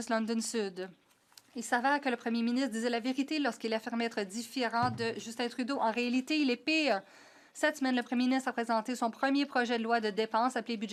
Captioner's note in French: voix de l'interprète